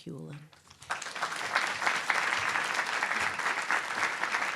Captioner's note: applause